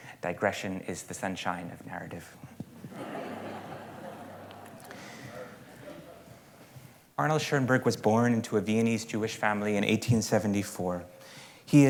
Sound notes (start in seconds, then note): 2.8 laughter